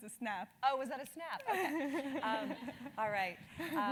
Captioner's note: laugh; laugh